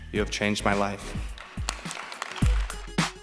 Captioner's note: applause